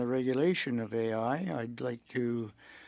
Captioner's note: speaking French